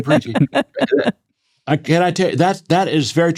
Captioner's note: laughing